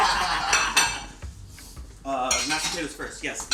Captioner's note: both laugh